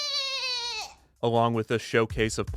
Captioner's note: perfect goat bleating impression